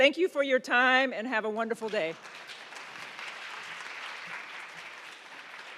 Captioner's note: attendees applauding